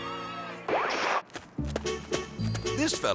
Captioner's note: screen static; melodic music